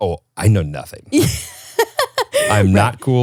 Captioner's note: laughs